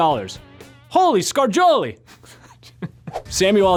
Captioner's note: laughs